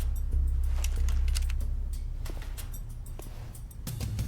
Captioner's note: guns cocking